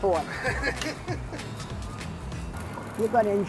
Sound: laughing

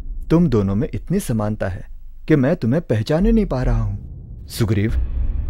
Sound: none

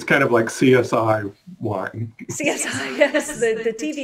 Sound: chuckles

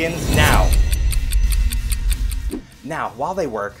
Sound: clock ticking

